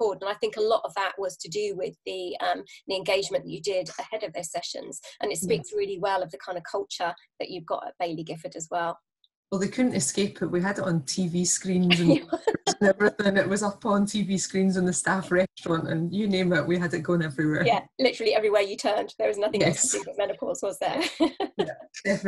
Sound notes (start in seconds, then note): 11.9 laughter